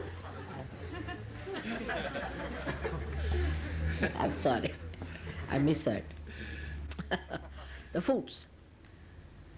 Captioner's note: laughter